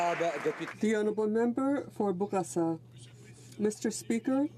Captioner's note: applause